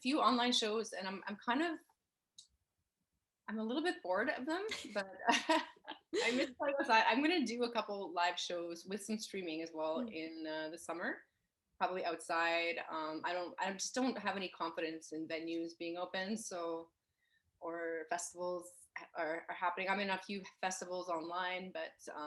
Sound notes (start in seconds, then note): 6.0 laughs